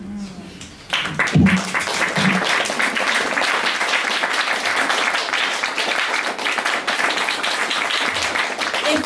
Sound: applause

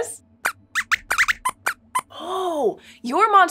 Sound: squeaks squeaks

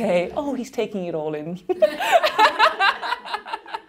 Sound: laughing

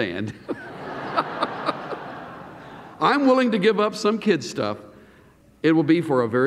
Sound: laughter

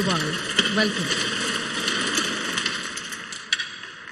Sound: crowd applauds

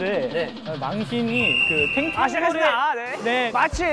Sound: whistle signals start

